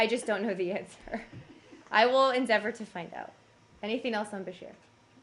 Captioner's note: laughter